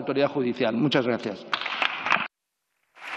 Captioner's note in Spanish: Aplausos